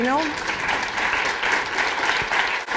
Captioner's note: applause